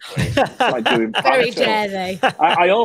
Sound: laughing drowns out speaker; man laughing

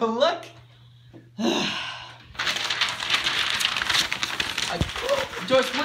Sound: sighs; papers rustling

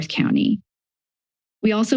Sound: silence

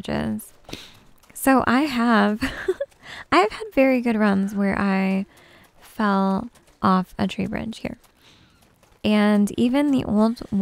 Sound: giggles

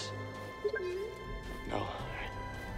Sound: boo-doo-beep

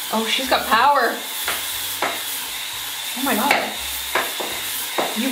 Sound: cleaning brush whirring

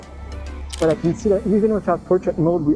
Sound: camera clicking

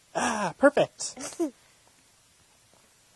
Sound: chuckles

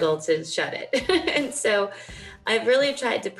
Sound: laughing

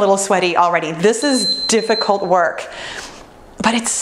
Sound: timer beeps

